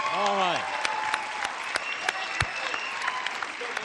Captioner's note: applause